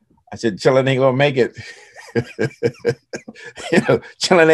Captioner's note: laughing